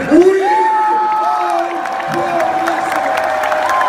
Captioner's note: crowd cheering